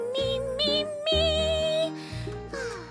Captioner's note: sighs